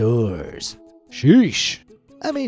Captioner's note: in normal narration